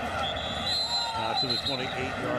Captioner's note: whistle blows